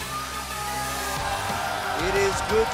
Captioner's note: cheers & applause